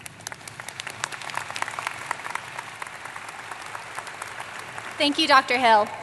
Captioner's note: applause